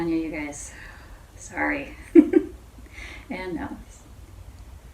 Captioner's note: chuckles